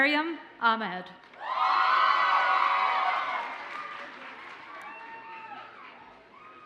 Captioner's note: audience cheers and applauds